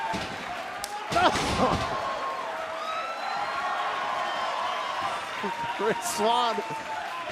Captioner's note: crowd cheering